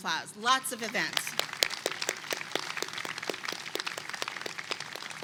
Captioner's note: attendees clapping